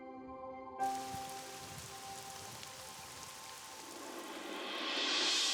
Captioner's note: rain pouring